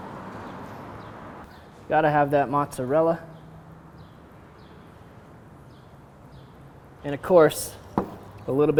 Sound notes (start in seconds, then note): 5.5 birds chirping